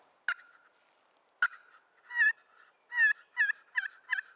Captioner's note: turkey calling